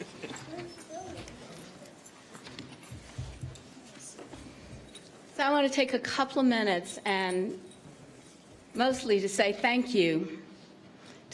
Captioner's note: laughter